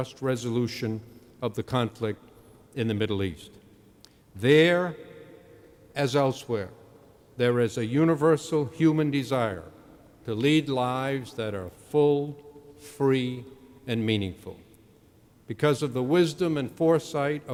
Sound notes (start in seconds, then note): none